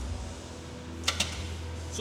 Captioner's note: click